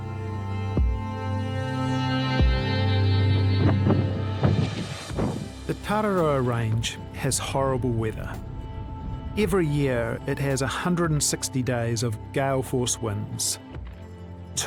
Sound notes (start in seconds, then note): 0.1 epic music; 3.6 wind rushing